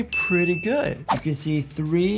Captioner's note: bell dinging